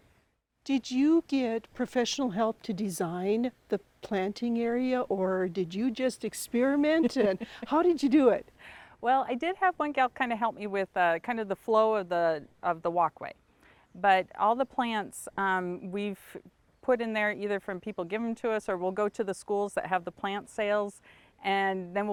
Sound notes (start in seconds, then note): 6.9 laughs